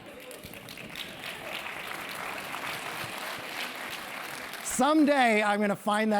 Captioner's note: applause